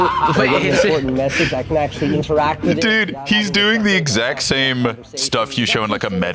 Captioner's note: laughs